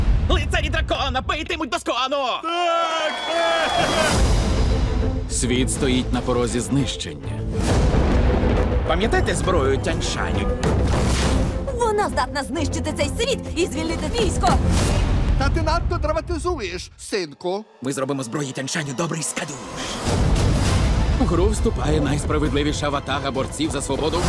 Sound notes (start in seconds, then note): 2.4 villagers cheer; 7.3 dramatic music plays; 7.7 thunder crashes